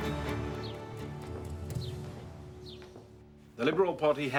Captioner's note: birds chirping